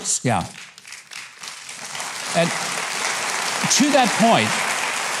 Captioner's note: audience applauds